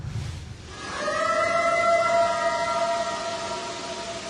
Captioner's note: eerie howl